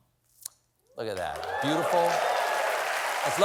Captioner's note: applause